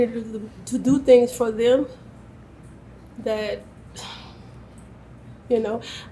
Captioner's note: sighs